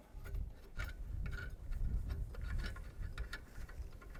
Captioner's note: metal scraping